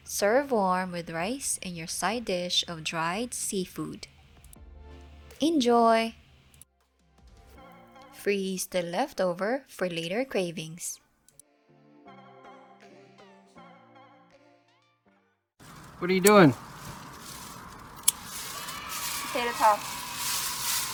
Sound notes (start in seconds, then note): 17.4 kids cheering; 18.0 cutting with scissors